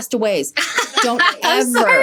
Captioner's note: laughing